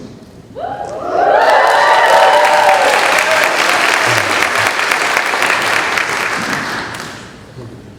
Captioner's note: cheering